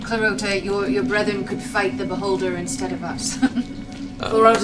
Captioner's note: laughs